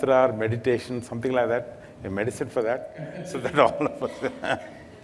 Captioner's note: Sadhguru Laughs